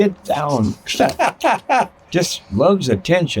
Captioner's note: interviewer laughing